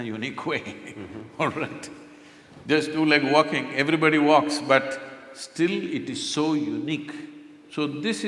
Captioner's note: laughs